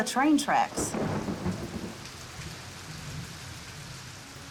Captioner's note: thunder